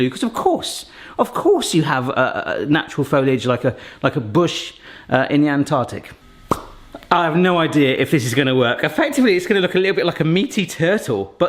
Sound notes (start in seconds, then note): 6.4 hands popping